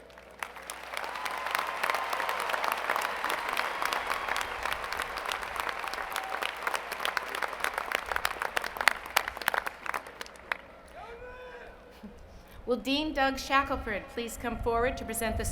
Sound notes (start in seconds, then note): 9.1 applause